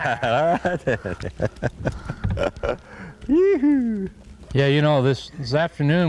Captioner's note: laughter